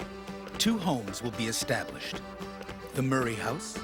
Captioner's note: voiceover